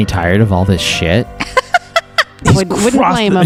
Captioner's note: laughs